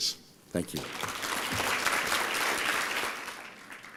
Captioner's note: applause